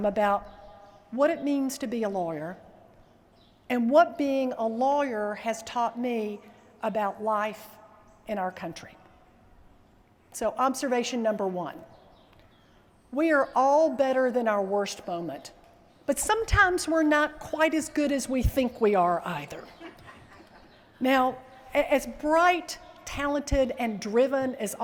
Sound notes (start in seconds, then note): 19.6 laughter